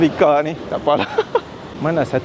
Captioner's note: laugh